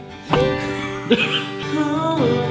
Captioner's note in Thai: หัวเราะ